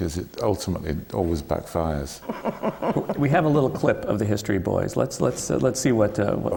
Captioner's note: laughs